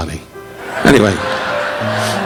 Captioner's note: audience laughing